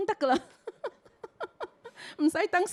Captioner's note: Cantonese; chuckles; Cantonese